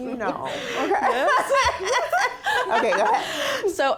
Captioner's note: audience laughing